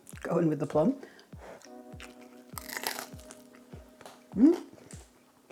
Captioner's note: crunch